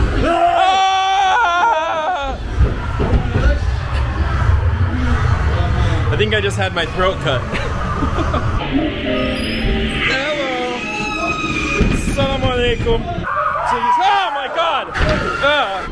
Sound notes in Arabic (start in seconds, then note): 7.0 بكثرة الصراخ